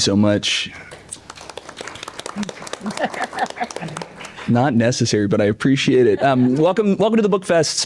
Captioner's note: applause